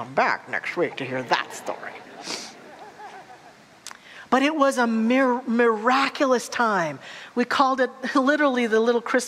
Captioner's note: audience laughter